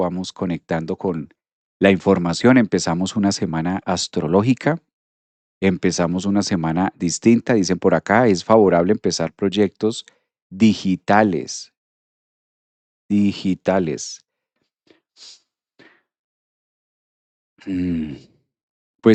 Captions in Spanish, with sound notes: vamos conectando con la información. Empezamos una semana astrológica. Empezamos una semana distinta, dicen por acá, es favorable empezar proyectos digitales. Digitales. [resoplido]